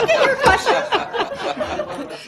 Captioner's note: laughter